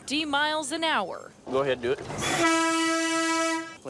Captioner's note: honk